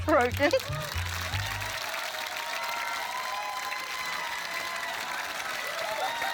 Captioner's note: cheering, applause; laughs